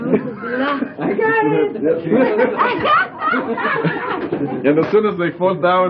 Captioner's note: laughter